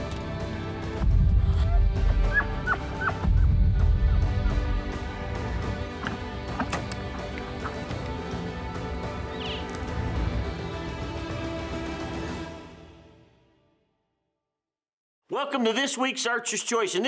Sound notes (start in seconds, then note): 1.5 elk bugles; 5.2 dramatic adventurous music